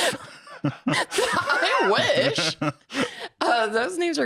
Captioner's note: laughs; chuckles